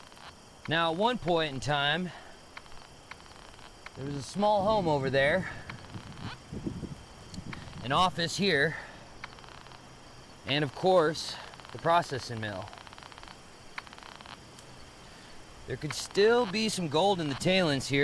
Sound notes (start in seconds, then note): 0.0 insects chittering; 5.6 metal detector crackling; 8.6 insects chittering; 12.3 insects chittering; 12.5 metal detector crackling